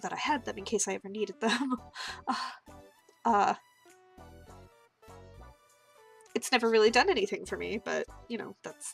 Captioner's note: laughter